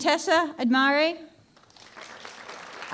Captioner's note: applause